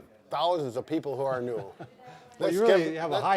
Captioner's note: chuckling